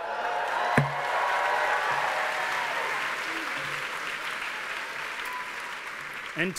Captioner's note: cheers and applause